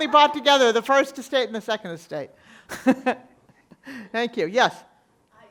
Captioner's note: laughs